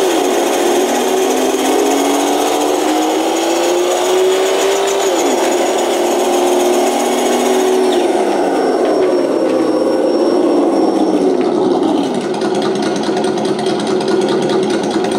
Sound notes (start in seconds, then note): 1.0 gears shifting; 11.6 engine throttling down